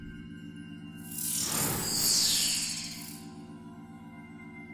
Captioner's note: laser beams